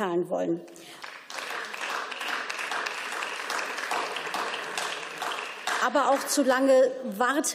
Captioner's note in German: Beifall